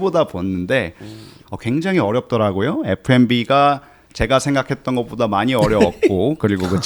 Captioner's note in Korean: 콧방귀